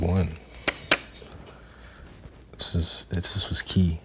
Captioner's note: paper flapping